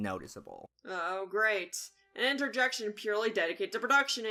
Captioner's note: sarcastic tone